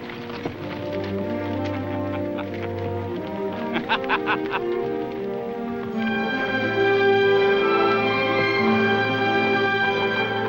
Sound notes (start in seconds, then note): 0.6 sweeping music; 1.9 Tom laughing